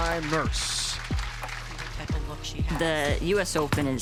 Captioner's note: crowd clapping and cheering